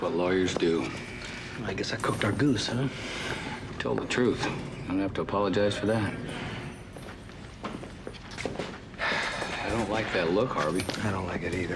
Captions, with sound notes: That's what lawyers do. - I guess I cooked our goose, huh? - You told the truth. Don't have to apologize for that. - (Harvey sighing) - I don't like that look, Harvey.